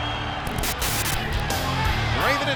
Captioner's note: TV static hissing